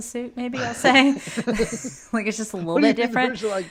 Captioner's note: both laugh